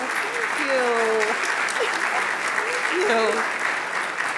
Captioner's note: audience applauding